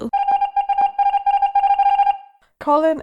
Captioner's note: alarm ringing